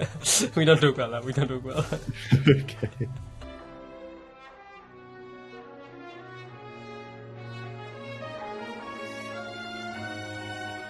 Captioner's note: chuckling